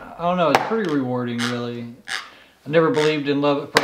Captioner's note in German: knirscht mit den Zähnen